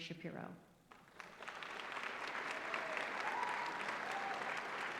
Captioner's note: applause